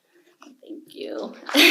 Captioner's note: audience applause